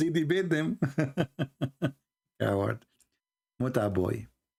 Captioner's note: Ketawa